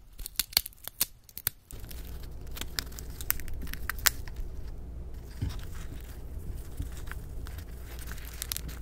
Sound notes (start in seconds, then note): 2.4 hamster noming peanut time